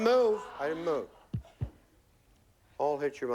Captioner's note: taps microphone stand